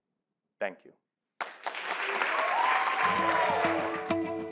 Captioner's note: applause